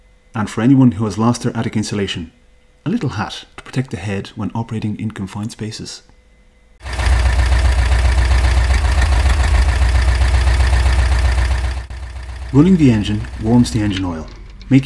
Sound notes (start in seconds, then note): 6.8 idling engine noise